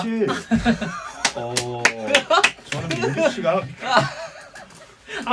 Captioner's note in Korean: 박수